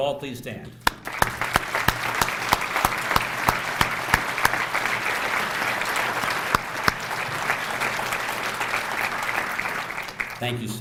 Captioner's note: applause